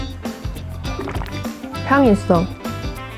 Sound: gulp

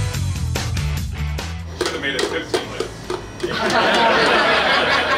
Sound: laughter

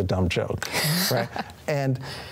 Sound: chuckles

